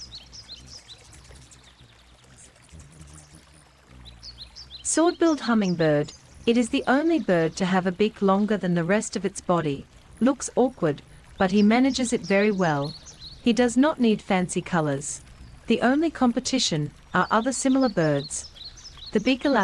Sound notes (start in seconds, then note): 0.7 bird singing; 0.7 river flowing